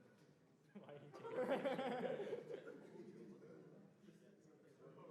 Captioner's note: laughter